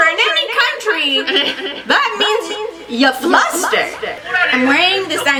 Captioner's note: echoing; laughs; echoing